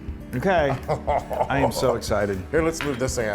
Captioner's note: laugh